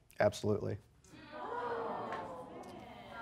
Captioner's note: audience gasps